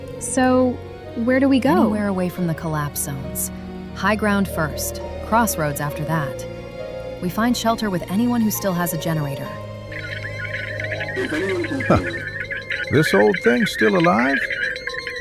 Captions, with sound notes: So, where do we go? - Anywhere away from the collapse zones. High ground first, crossroads after that. We find shelter with anyone who still has a generator. [radio signal crackling] This old thing still alive.